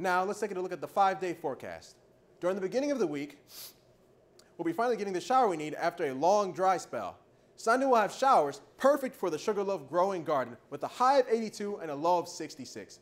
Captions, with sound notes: Now let’s take a look at the 5 day forecast. During the beginning of the week *sniffs* we’ll finally be getting that shower we need after a long dry spell. Sunday we’ll have showers, perfect for the Sugarloaf growing garden, with a high of 82 and a low of 66.